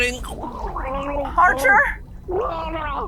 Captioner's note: Archer gurgling